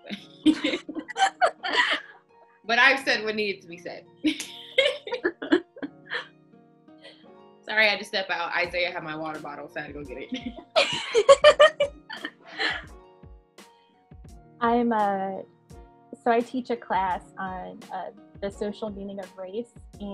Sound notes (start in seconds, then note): 0.4 all laughing; 10.4 all laughing